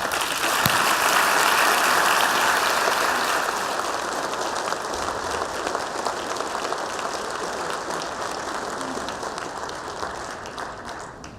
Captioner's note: applause